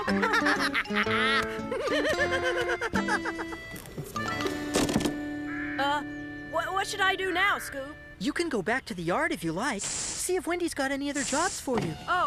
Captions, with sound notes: ( Laughing ) ( Thud! ) UH, W-WHAT SHOULD I DO NOW, SCOOP? YOU CAN GO BACK TO THE YARD, IF YOU LIKE. SEE IF WENDY'S GOT ANY OTHER JOBS FOR YOU.